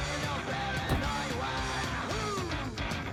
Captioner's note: body thud